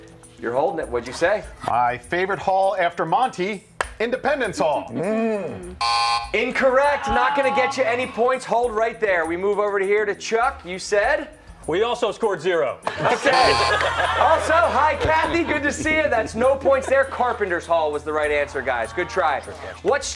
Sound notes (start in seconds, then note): 12.8 laughter